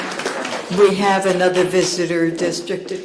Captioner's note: applause